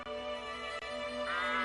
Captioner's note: duck quacking